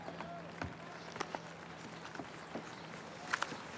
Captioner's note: none